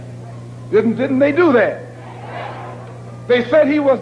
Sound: crowd concurs

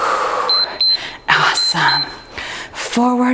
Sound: timer beeps

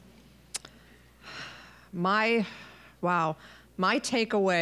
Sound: exhaling

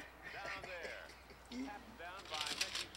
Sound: chuckles

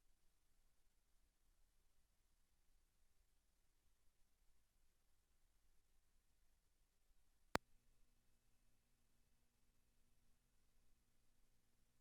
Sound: silence

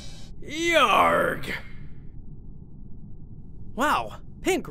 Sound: pirate's yell

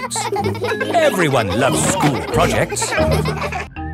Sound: children laughing

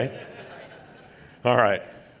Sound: laughing

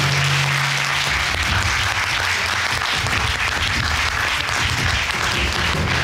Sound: audience applauding

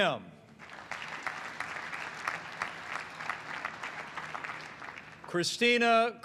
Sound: applause

